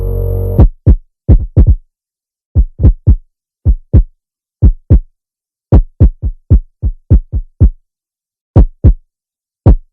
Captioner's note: suspenseful music; heart beating